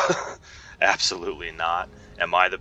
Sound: scoffs

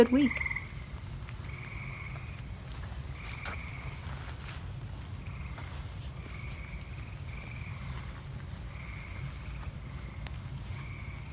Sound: frog sounds continue and then fade out

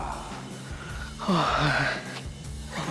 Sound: big sigh

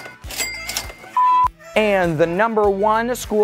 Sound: beep

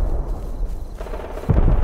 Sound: boom; gunfire; boom

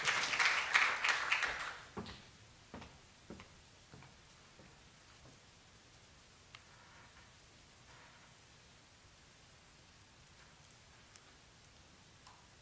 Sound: clapping

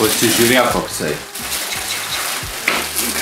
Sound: mixing sounds

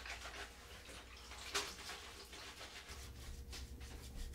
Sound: none

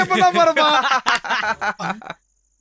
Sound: laughs

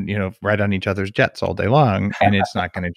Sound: laughs

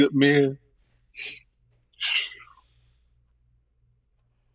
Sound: sobbing

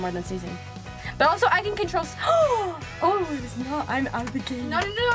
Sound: gasps

